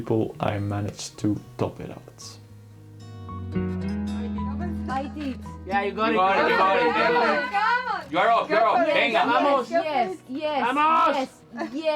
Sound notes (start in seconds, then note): 6.0 motivational cheering